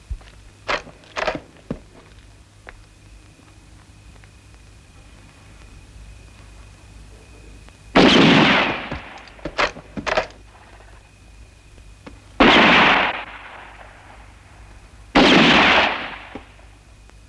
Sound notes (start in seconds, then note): 1.1 rifle clicking; 7.9 gun firing; 10.0 rifle clicking; 12.4 gun firing